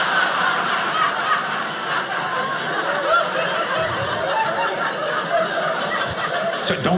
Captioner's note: audience laughing